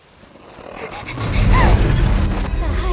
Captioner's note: panting; growling